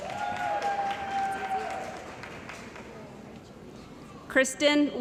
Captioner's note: cheering & Applause